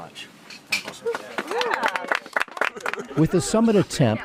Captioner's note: applause